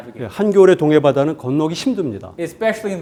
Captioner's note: speaking in Korean